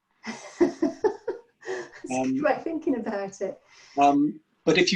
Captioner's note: laughs